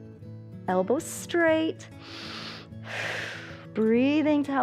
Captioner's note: inhales and exhales